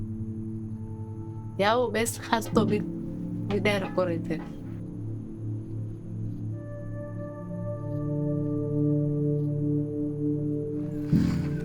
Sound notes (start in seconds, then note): 1.6 speaking in foreign language